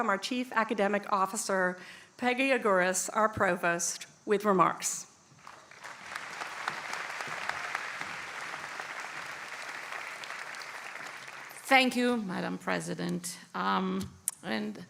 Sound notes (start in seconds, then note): 5.4 applause